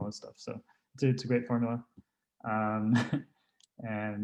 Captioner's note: chuckles